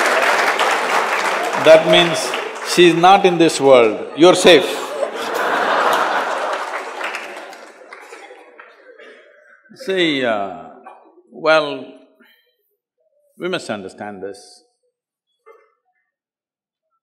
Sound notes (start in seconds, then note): 4.0 laughter